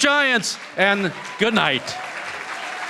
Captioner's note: cheering & Applause